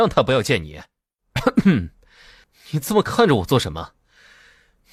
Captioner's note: coughs